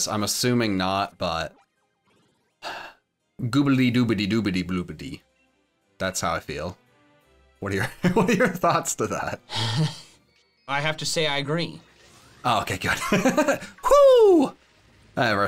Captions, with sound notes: I'm assuming not, but googlidooblidoobidiblubidy. That's how I feel. What are your, to that? (chuckles) - I have to say, I agree. - Okay, good (giggling) Woo! All right.